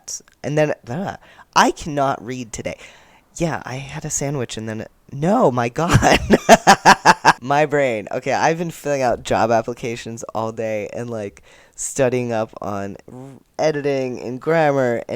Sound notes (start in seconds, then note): 5.9 laughter